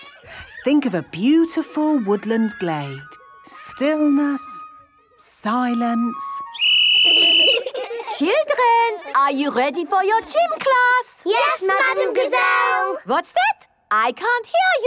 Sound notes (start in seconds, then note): 6.4 whistle blowing; 7.0 laughter